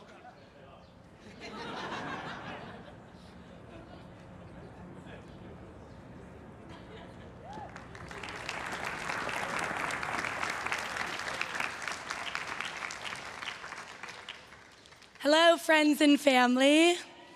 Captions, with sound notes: (everyone cheering and applauding) - Hello, friends and family.